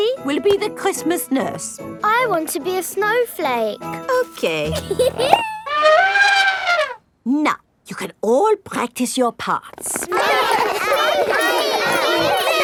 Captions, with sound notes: Suzy will be the Christmas nurse. I want to be a snowflake! -Okay. -(GIGGLES) (TRUMPETS) Now, you can all practice your parts. (ALL LAUGHING AND CHATTERING)